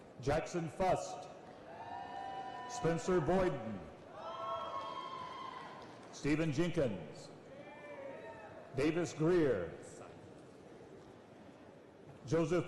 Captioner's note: applause and cheering